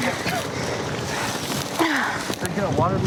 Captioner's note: grunts